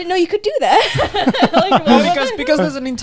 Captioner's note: laughing